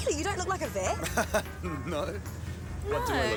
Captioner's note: chuckles